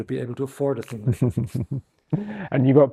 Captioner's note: chuckles